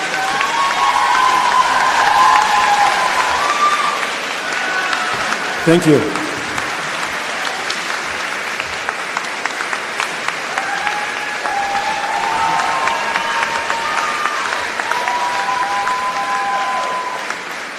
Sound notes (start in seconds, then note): 1.4 cheers and applause; 15.4 applause